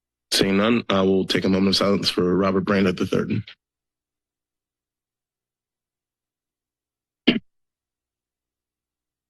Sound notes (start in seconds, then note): 3.5 moment of silence